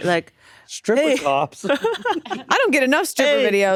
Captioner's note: Atsuko laughing